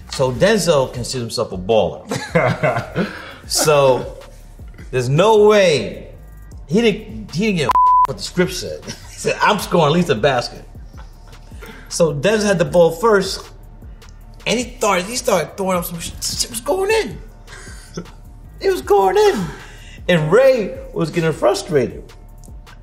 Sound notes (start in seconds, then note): 2.0 RJ laughs; 7.6 beeps; 17.4 RJ laughs